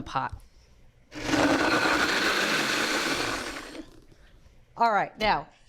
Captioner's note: blender whirring